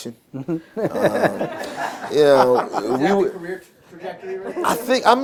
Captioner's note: laughter